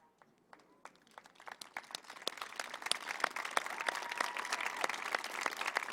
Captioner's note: applause